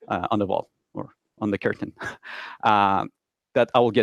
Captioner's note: chuckles quietly